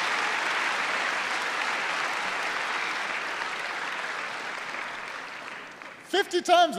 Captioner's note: applause